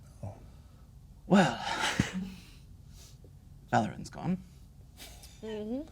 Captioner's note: sighs